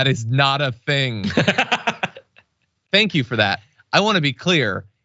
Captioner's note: laugh